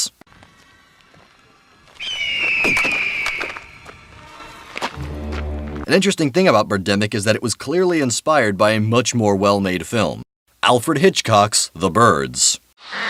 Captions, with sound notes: [Obviously fake bird screech] An interesting thing about Birdemic is that it was clearly inspired by a much more well-made film. Alfred hitchcock's "The Birds"